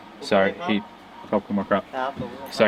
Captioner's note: foreign language